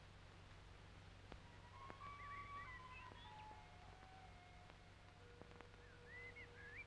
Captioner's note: birds chirping; idyllic music